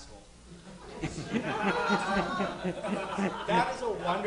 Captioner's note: audience laughing